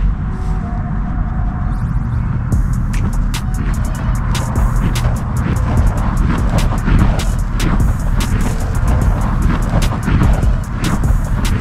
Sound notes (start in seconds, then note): 2.5 upbeat music; 4.0 whirring